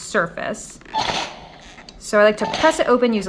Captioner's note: steam hissing